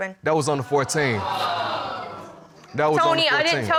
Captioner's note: audience exclaiming